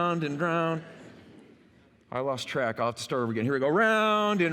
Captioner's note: laughter